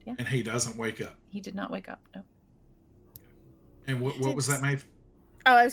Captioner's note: none